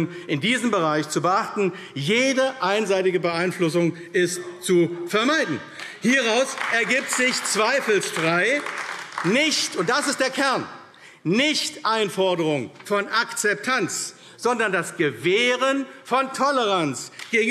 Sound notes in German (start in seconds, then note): 5.7 Beifall AfD